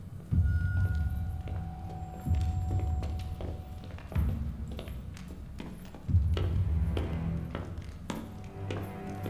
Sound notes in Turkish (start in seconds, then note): 3.7 Ayak sesi